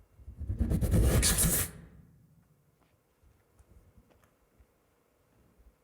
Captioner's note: imitating whooshing